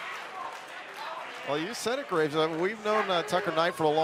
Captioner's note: crowd chatter